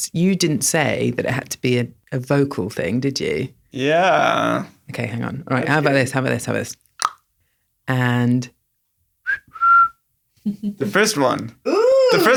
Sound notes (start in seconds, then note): 7.0 clicks tongue; 9.2 whistles